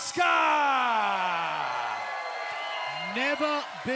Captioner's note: cheers and applause